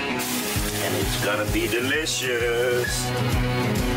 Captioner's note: radio